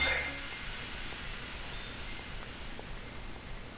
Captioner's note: windchimes